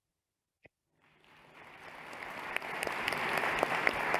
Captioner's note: applause